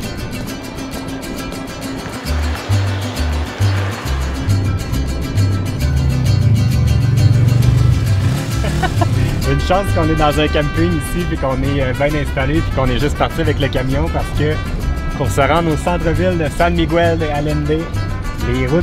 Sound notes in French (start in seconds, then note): 8.3 rire